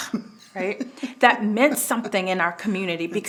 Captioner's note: chuckling